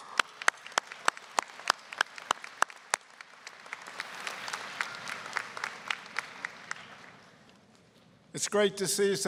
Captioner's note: applause